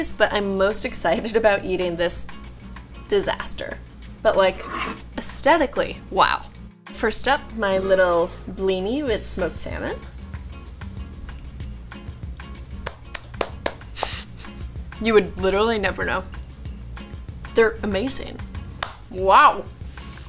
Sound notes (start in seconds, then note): 10.4 bright music; 12.8 clapping